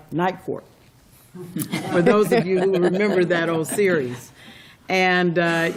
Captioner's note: laughter